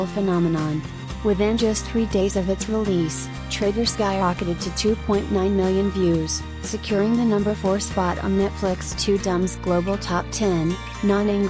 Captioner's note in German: nicht englischsprachig